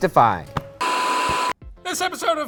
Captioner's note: static buzzes